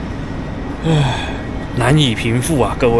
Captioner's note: sigh